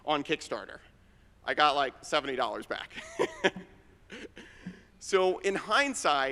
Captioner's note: laughs